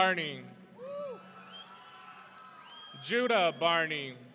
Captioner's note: audience cheering